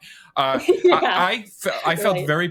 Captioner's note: laughs